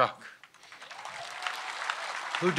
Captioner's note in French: Applaudissements